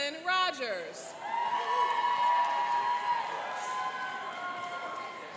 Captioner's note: cheering and applauding